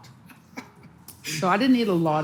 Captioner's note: laughs softly